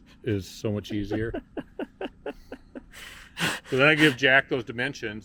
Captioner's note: host chuckling